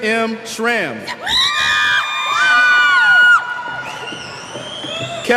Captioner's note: cheers